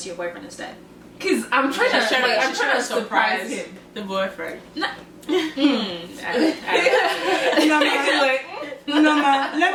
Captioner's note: laughter and chatter